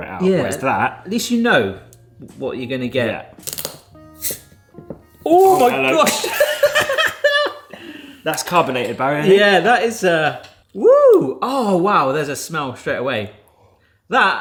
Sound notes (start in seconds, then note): 3.4 cap clicks open; 4.1 carbonation hisses; 5.8 laughs